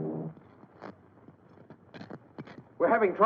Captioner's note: static buzzing